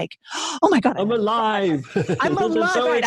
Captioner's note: laughs